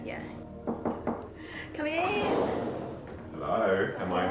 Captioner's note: A knock at the door to the scanning room